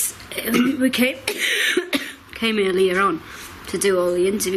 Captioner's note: coughs